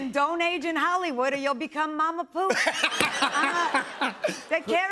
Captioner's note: laughter